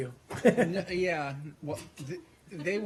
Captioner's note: laughter